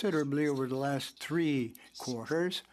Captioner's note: speaking French